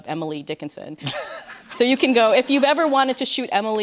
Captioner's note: light laughter